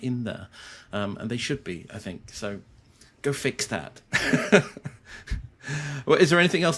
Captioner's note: laughs